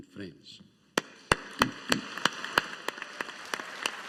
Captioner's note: audience applauding